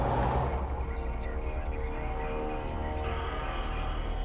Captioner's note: radio wallah with interference